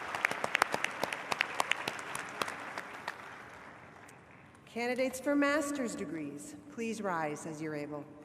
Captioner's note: applause